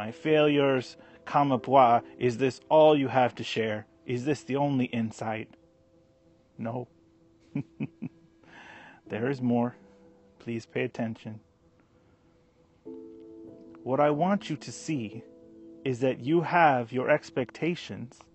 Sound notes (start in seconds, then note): 7.4 chuckles